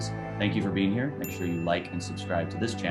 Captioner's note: single pinging